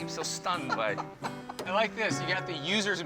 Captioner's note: laughs